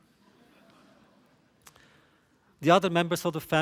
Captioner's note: laughter